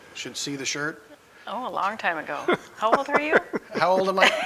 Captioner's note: laughing